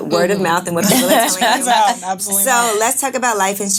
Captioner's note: laughing